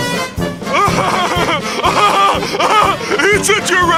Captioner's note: Patrick Laughs